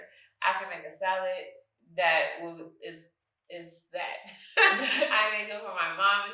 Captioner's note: chuckles